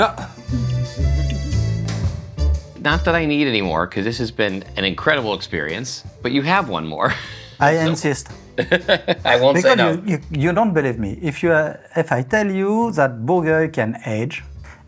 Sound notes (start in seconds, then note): 0.9 soft upbeat music; 8.6 laughing